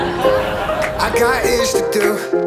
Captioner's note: laughter